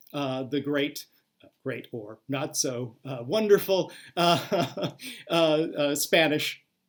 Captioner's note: laughs